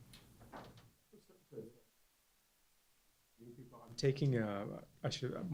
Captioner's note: voiceover